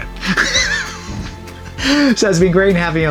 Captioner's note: laughs